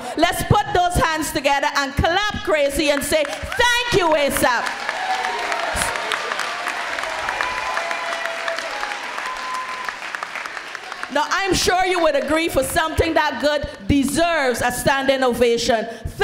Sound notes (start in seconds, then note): 4.8 crowd applauds